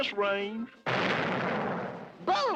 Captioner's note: gunshot